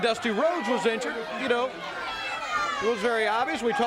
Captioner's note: crowd chatter